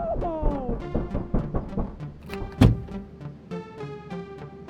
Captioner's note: fist pounding